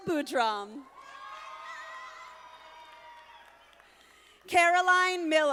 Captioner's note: audience applauding